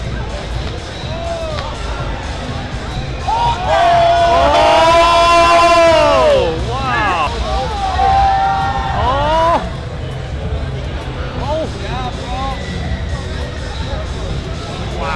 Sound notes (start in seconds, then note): 0.2 upbeat music; 3.3 crowd cheering